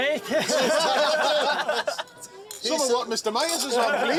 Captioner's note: laughter